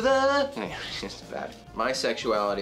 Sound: chuckles

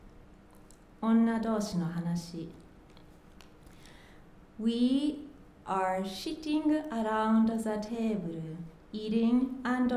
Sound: speaking japanese

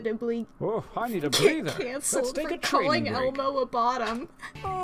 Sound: through laughter

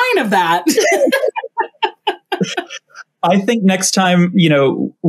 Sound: both laugh

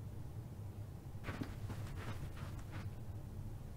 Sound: footsteps

